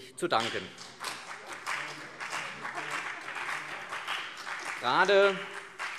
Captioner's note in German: Beifall CDU und vereinzelt BÜNDNIS 90/DIE GRÜNEN